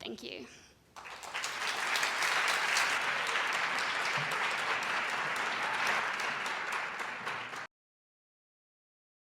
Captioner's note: audience applauds